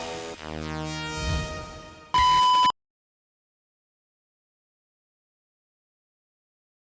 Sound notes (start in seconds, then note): 2.1 electronic beep